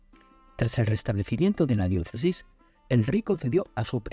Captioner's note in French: français